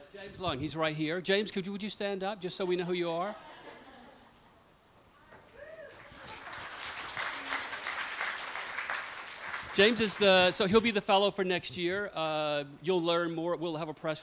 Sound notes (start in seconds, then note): 5.8 applause